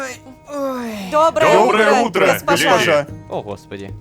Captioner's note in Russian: хором